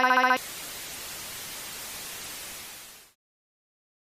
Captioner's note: white Noise